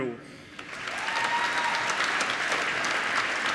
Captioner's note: applause